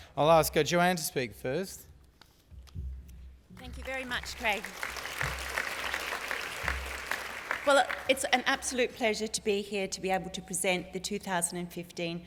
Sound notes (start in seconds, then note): 7.5 applause